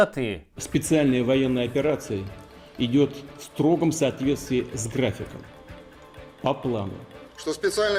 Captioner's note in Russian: голос путина